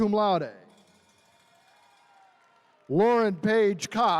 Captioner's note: attendees cheering